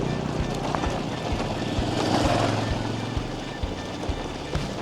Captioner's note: ATV roars past; ATV putters